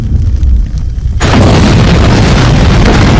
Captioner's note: explosion